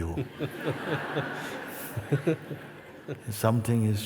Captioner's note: laughter